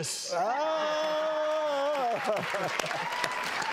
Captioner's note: hollers; audience applauds